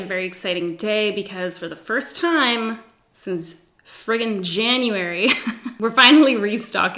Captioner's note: giggles